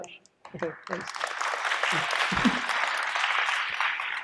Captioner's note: audience applauding